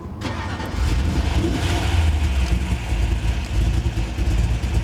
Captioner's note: car engine starts